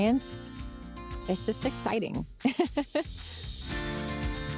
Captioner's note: chuckles; lively music continues